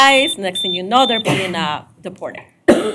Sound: beep

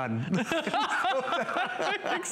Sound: laughter

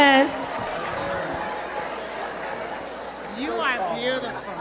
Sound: cheering

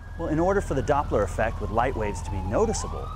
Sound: siren wailing

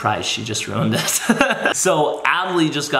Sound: laughs

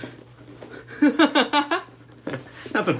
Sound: laughter

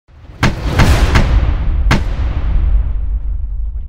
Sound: logo thudding

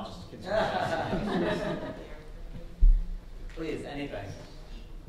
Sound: audience laughing

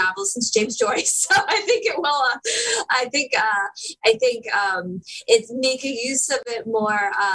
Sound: laughter

